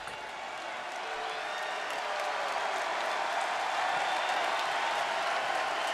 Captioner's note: audience cheering